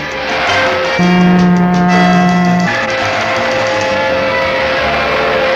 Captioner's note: white Train Driver pulls the Horn & Brakes Hard; Blue Train Driver pulls the Horn & Brakes Hard